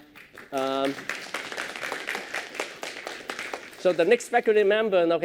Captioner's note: applause